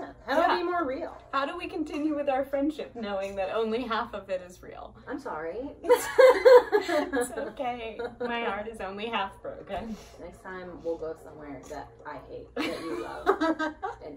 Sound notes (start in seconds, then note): 6.0 laughs; 12.6 laughs